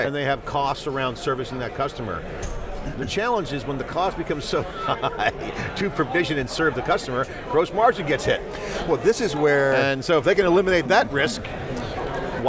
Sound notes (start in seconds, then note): 4.6 laughs